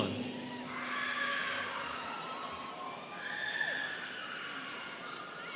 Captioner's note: students cheering